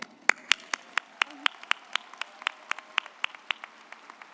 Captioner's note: audience applauds